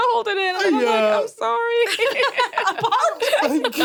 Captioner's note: laughs